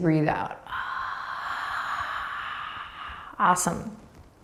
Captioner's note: breathing deeply